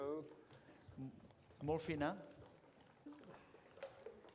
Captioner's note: non-english